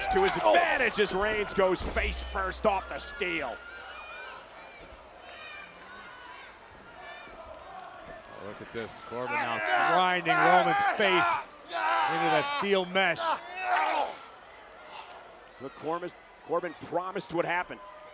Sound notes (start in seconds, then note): 4.4 crowd shouting; 14.0 wrestlers grunting